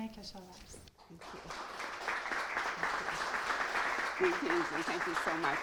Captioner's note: audience applauding